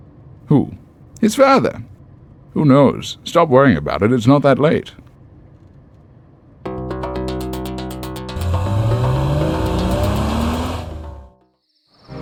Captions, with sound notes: Who? His father. Who knows? Stop worrying about it, it's not that late. [engine revs]